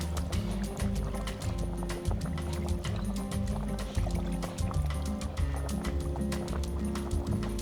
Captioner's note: pot keeps bubbling